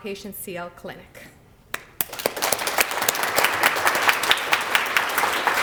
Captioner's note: applause